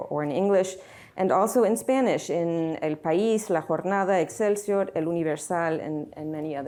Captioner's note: speaking spanish